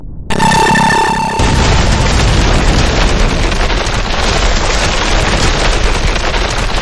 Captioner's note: explosion booming; lasers blasting